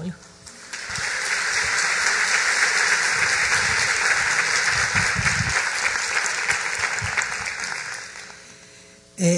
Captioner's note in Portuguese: applause